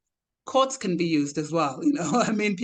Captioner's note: chuckles